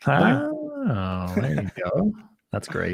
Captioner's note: laughs